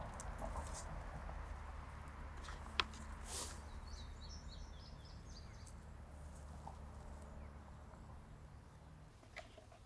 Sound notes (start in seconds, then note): 3.2 bucket shuffling; 3.5 birds chirping